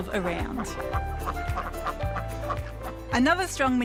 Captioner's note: ducks quack